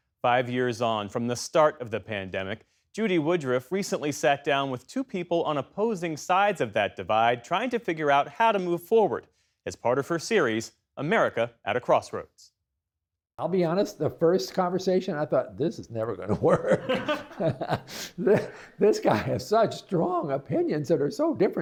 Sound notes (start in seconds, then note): 18.3 laughter